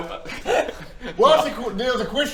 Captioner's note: nervous laughter